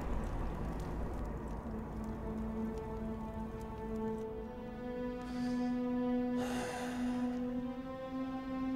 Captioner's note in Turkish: Ateş çıtırtı sesi